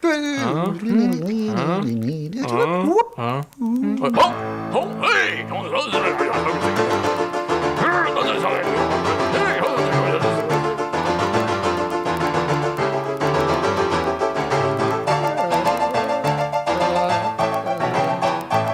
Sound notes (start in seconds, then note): 4.6 grumbling and muttering